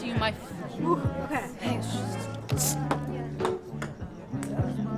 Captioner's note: gasps; soft gentle upbeat music